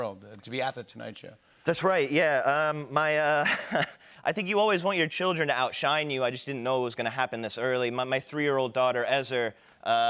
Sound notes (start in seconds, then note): 3.4 chuckles